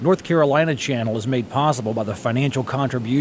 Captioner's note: waves roar